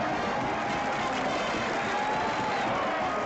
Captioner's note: crowd cheering